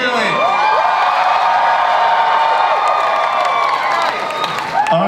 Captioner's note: audience cheers